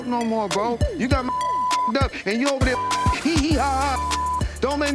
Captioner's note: beep